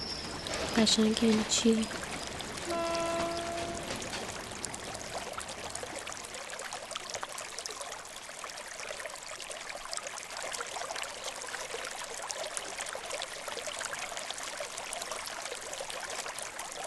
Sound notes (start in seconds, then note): 0.1 water flowing; 2.6 rain horn; 4.4 water flowing